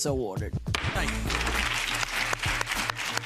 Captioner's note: audience applauding; gavel thudding